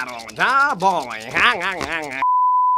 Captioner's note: laughs LOL